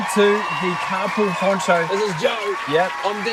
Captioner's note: audience cheers and applauds